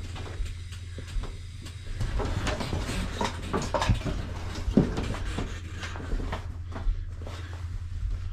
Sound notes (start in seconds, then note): 1.3 lift squeaking